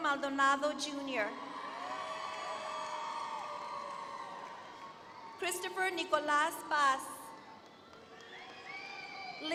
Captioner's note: applause